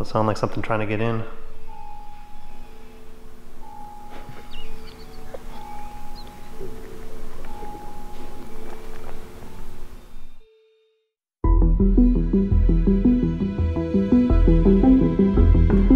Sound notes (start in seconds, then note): 2.5 eerie music; 4.6 chuckles; 6.2 suspenseful music; 11.4 gentle music